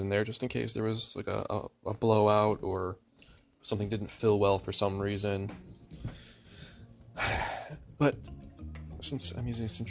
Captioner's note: sigh